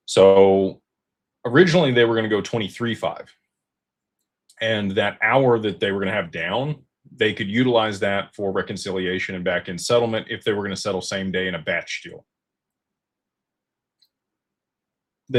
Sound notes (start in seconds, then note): none